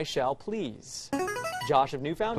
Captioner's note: buzzer